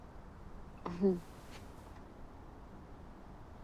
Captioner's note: chuckles